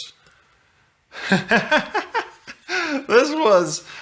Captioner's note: laughs